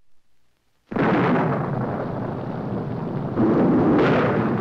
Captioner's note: thunder roaring